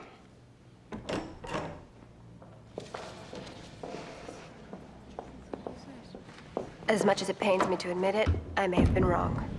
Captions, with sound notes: (door opens) - As much as it pains me to admit it, I may have been wrong.